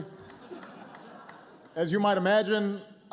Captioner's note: laughter